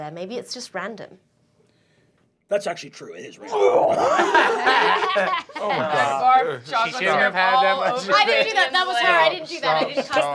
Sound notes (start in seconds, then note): 3.4 imitates wretching; 3.9 laughter